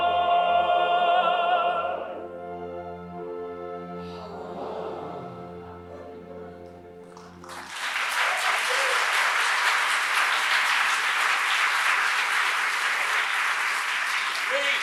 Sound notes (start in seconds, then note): 4.0 all sigh dreamily; 7.0 applause; 14.6 characters speak in thick scottish brogue